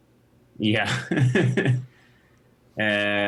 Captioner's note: laughs